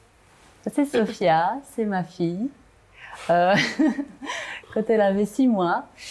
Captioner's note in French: rire